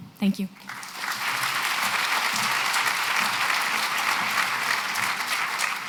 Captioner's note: applause